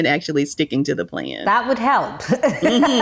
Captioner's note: laughs